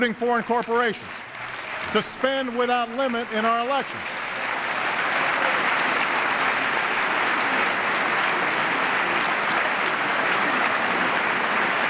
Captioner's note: applause